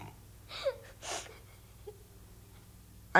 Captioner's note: sobbing